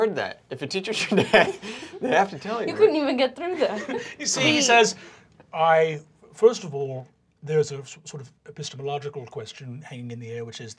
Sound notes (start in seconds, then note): 1.0 laughter; 1.1 chuckling